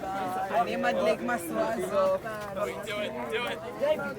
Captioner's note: speaking foreign language